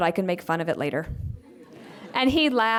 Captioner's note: laughter